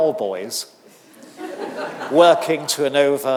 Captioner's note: audience laughing